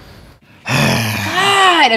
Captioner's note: sigh